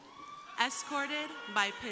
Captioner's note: crowd cheering